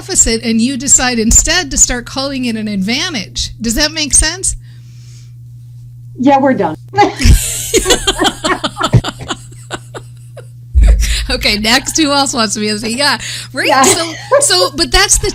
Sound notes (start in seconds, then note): 7.0 laughing